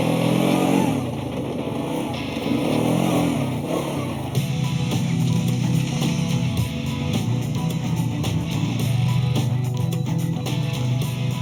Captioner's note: motorcycles revving